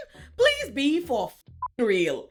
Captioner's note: beep